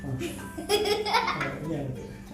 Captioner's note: laughing